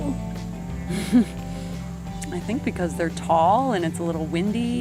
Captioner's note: laughing